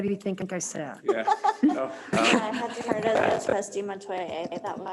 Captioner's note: they laugh